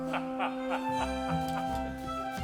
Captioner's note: Frank laughs; cheerful orchestra music